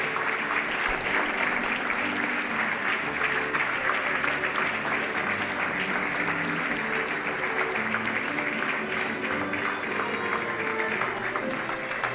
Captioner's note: applause